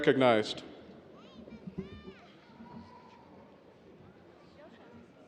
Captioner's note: audience cheers